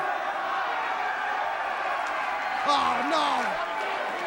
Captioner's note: crowd cheering